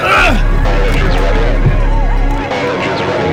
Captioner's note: intense music; radio chatter; Martin grunting